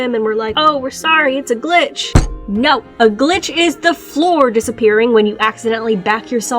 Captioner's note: table slam